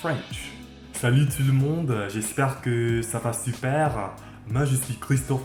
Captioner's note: french